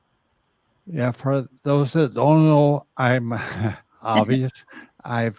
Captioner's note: chuckles